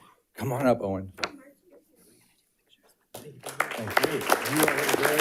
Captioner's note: audience applauding